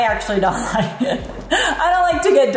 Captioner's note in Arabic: يضحك